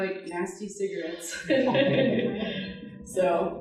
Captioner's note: audience laughing